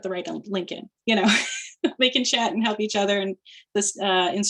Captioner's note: chuckling